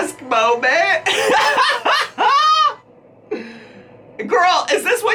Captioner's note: laughing